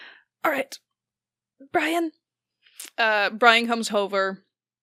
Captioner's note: strained